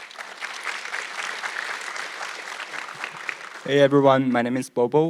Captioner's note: audience clapping